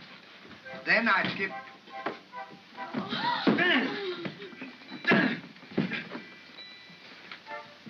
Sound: gasp

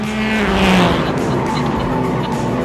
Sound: laughter

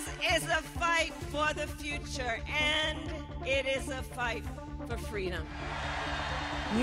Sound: applause

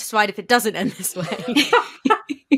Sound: laughing

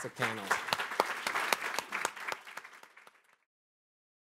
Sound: audience applauding

